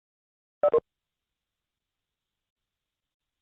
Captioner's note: beep